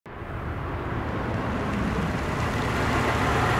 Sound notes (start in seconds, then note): 0.2 engine purring